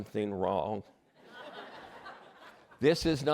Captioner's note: laughter